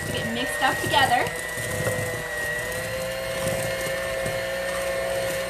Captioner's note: mixer whirring